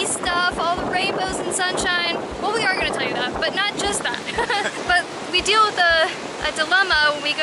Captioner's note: laughter